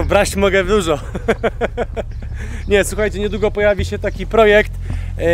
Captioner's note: laughs